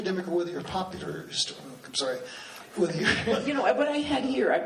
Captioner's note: laughs